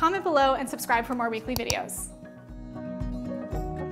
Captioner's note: mouse clicking